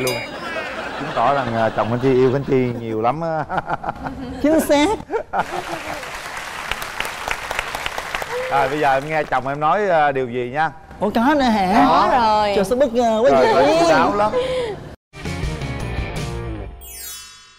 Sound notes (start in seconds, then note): 0.3 laughing; 5.4 applause